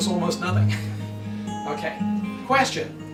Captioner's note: laughs